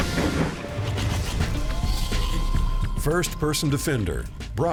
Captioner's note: machine whirs